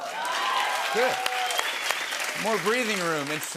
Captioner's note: cheers and applause